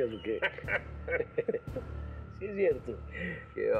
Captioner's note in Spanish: Risas